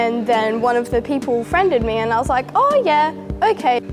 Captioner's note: none